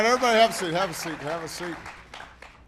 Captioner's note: applause